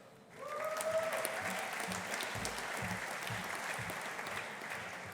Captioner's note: audience applauding